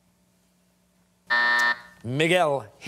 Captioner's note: buzzer sounding